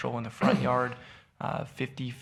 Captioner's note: man coughs